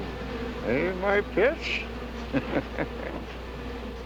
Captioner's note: chuckling